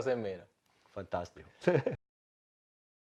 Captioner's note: laugh